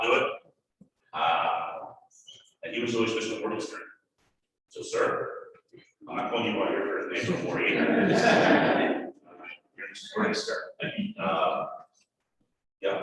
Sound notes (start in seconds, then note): 10.2 laughter